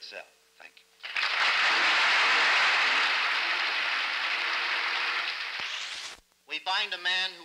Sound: applause

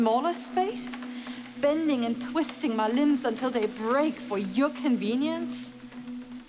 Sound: more creaking; creaking intensifies

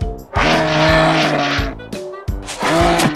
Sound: roaring

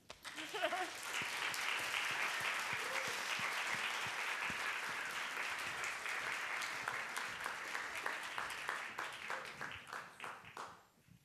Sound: applause

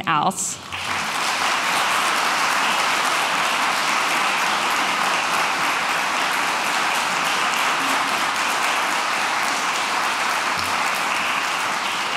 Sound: applauses

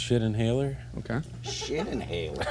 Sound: laughter

